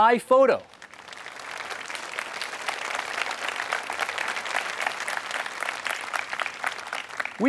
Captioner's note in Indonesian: Tepuk tangan